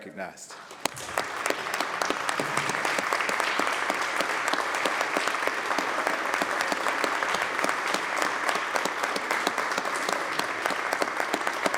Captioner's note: applause